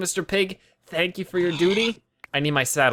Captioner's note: pig squeals